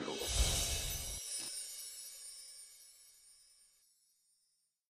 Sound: gentle chiming bells

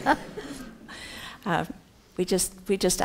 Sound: laughs

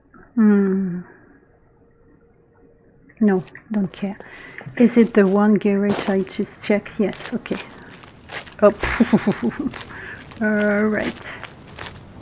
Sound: laughs

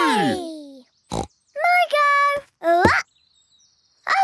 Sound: snorts

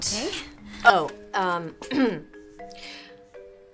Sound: clears throat

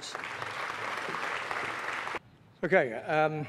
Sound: applause

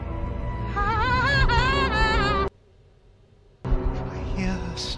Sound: creepy hysterical laughing

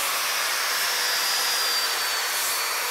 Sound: machine noise

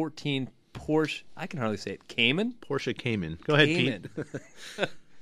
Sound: both laugh

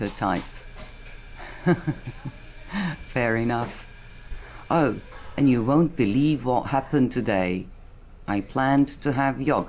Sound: laughs

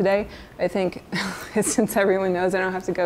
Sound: chuckles

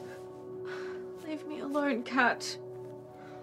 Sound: sighs

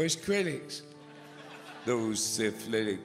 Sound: audience chuckles

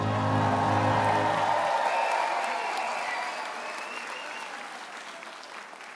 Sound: audience cheers and applauds

